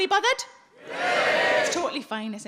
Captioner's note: audience cheers